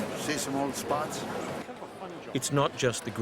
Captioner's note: voiceover